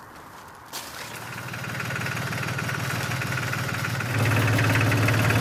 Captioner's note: engine rumbling